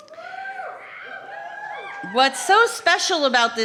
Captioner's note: cheering